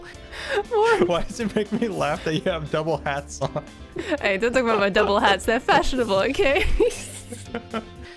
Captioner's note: laughs; laughs harder